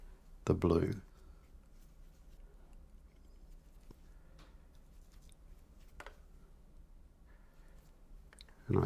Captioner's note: silence